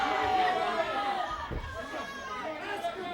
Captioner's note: crowd chatter